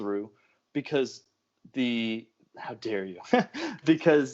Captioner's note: laughs